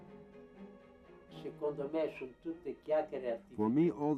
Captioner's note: Italian spoken language